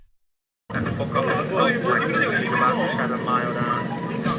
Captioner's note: people chattering